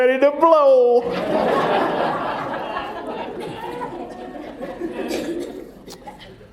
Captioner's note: laughter